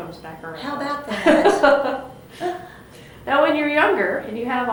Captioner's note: laughter